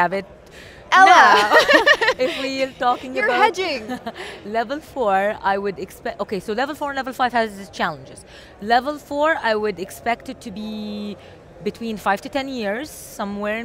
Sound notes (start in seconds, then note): 0.9 laughs